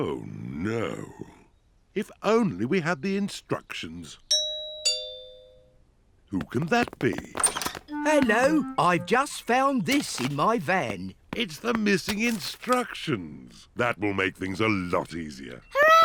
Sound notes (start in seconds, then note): 4.4 doorbell rings